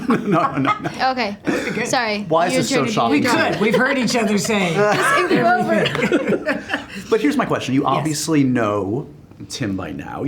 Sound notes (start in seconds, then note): 4.8 laughter